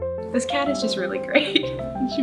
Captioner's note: laugh